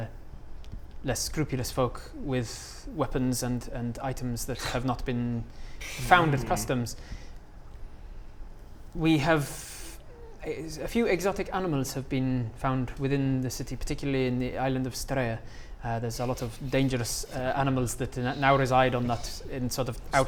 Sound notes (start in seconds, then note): 5.9 scoffs in disapproval